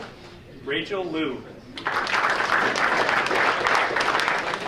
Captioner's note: audience applauding